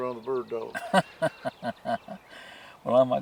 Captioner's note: laughing